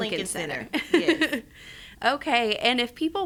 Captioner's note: chuckles